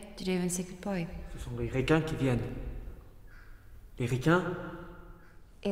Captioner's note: Anatole speaks in French